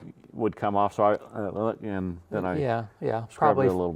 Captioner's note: vocalizes